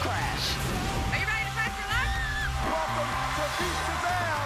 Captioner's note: excited scream